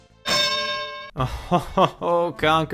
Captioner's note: bell dings; laughs